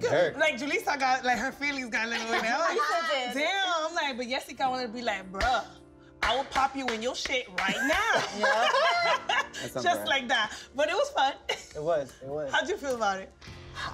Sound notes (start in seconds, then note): 7.6 laughs